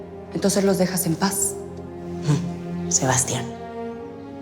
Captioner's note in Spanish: none